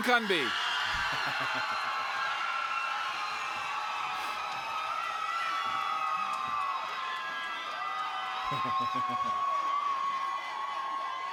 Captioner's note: applause